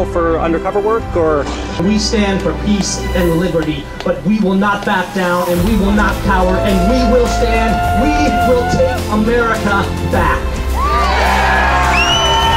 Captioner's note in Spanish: Aplausos